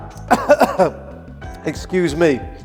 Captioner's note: coughing